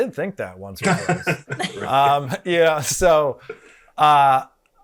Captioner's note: panelists laughing